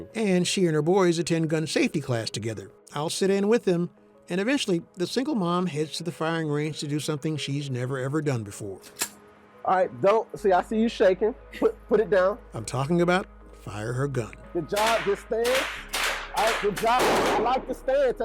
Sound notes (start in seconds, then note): 8.8 gun clicking